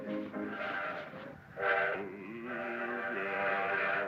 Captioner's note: train whistle